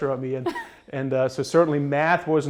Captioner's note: laughs